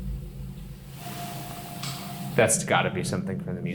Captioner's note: device beeping